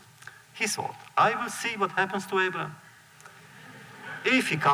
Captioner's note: laughter